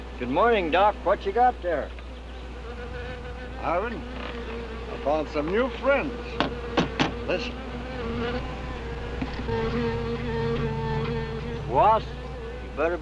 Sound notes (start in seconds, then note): 6.8 tapping; 8.9 angry buzzing